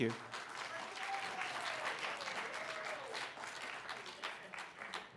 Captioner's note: applause